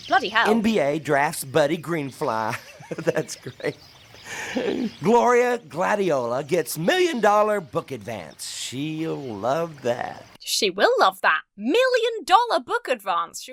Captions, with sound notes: Bloody hell. - "NBA Drafts Buddy Greenfly." (laughs) That's great. “Gloria Gladiola gets “million-dollar book advance.” She'll love that. - She will love that. Million-dollar book advance?